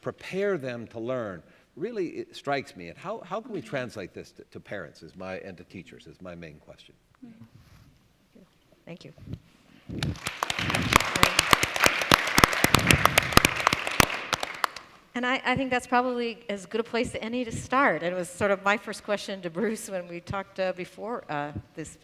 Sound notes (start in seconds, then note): 9.9 applause